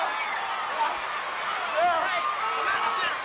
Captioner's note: Ric yelling